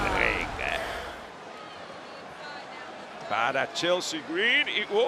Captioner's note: applause